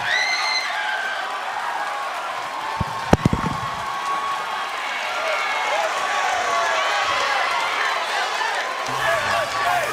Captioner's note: crowd cheering